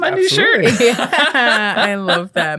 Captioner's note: all laughing